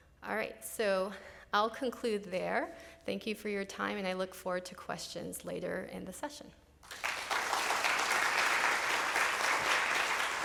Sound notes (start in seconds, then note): 6.8 applause